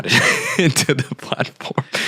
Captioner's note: laughing